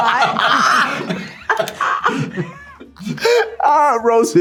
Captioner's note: all laughing